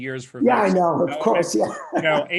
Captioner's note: laughing